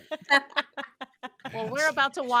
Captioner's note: all laughing